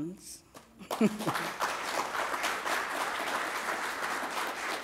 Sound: applause

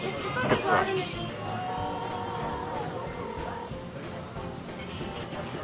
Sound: phone ringing

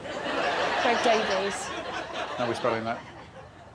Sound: audience laughing

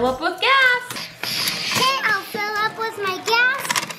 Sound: air hissing

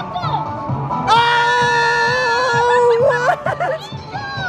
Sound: both screaming

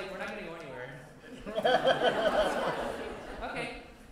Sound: laughter

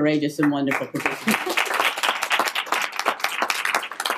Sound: applause

